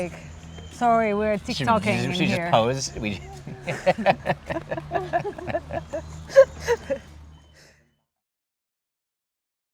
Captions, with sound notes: sorry, we’re tik tok-ing here. Should we just pose? (Laughing) Don’t ruin my Tik Tok dance.